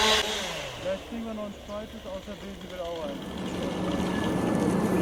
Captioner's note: indistinct chatter